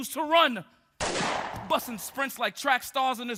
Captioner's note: gun bangs